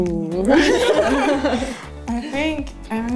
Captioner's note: laughter